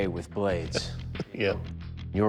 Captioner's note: chuckles